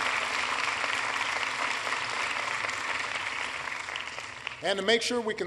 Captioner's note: applause